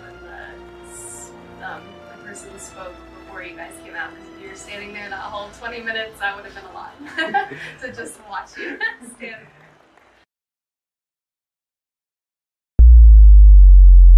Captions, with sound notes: and that the person spoke before you guys came out because if we were standing there that whole 20 minutes, that would have been a lot, (laughs) To just watch to stand there.